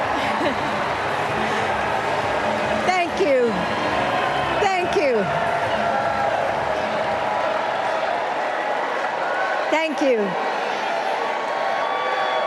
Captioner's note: applause